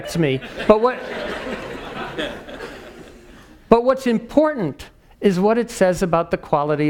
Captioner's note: laugh